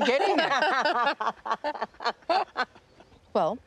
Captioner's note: laughing